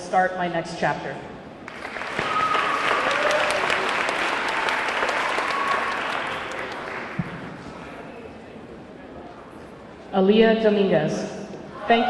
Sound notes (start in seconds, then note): 1.6 audience clapping; 1.7 audience cheering